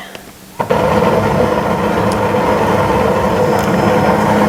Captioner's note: helicopter whirring